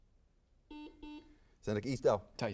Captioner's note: buzzer beeps